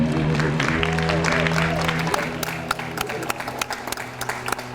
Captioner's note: audience applauds